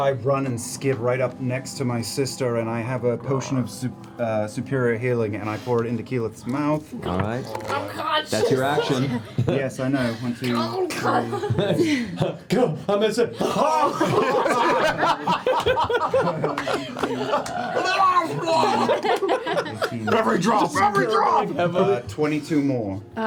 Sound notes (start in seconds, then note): 11.8 gurgles; 13.3 laughter